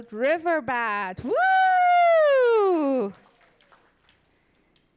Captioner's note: all cheering